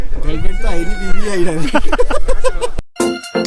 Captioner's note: laughs